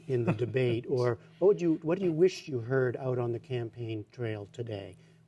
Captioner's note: laughter